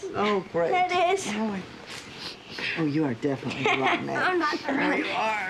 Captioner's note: sniffs; laughs